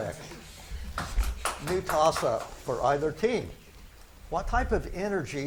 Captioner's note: spectators clap